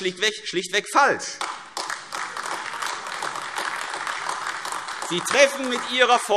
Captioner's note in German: Beifall AfD